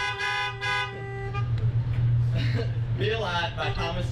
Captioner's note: horns honking; laughs